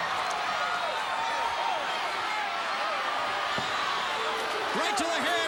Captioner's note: crowd cheering